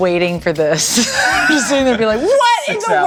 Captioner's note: laughter